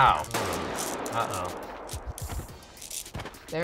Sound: gunfire echoes

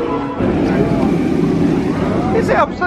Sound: rollercoaster whirring

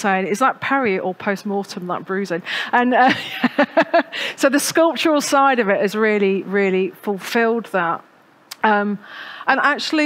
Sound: laughs

